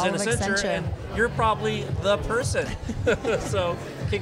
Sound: laughs

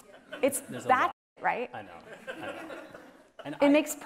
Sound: audience chuckling

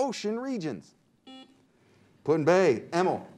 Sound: buzzer beeps

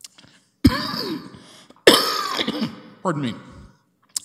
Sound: coughing

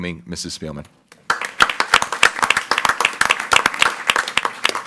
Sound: group applauding

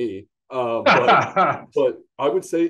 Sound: laughs

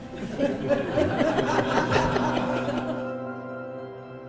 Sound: laughter

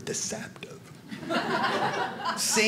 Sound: audience laughing

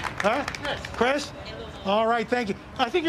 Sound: applause

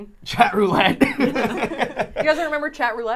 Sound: laughing

